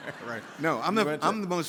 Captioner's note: laughing; audience laughing